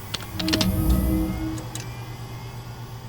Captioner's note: keyboard clacking; ethereal chime